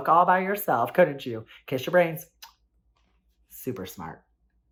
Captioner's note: smacks lips